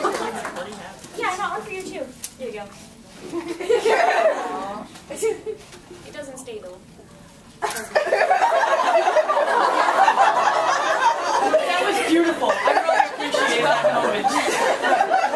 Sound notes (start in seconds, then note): 7.6 string on hat snaps